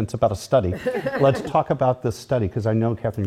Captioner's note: laugh